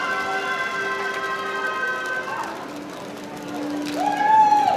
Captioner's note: audience applauding